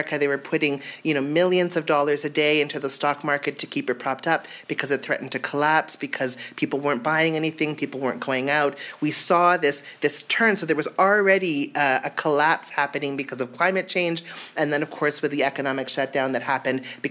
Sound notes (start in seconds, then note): none